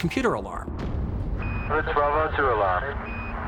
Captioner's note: beeping